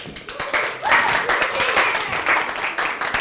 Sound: crowd applauds

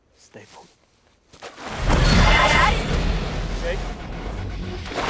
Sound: ghostly screeching

